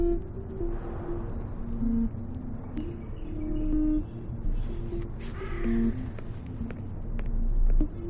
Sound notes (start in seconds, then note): 6.0 footsteps